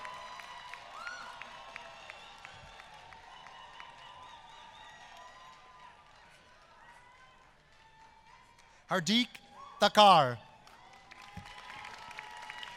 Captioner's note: applause